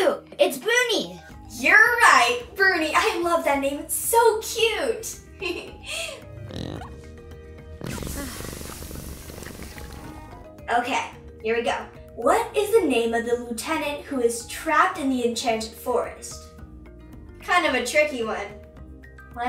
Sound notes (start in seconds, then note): 6.2 Bruni snorts; 6.3 laughs; 7.8 Bruni purrs; 16.5 whimsical music